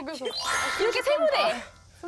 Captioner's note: returning to the barbecue place sound effect